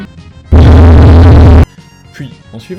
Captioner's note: honk; extra loud honk